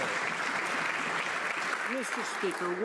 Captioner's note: some Applause